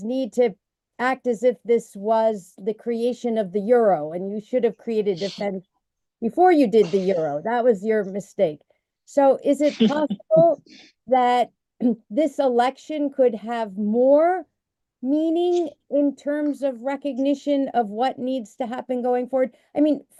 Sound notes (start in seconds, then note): 9.6 laughter